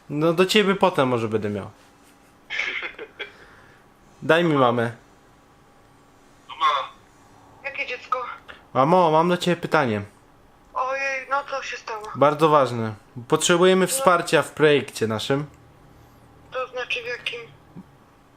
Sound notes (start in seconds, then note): 2.4 laughter